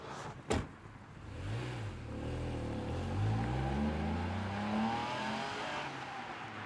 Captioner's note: car door closing; vehicle revving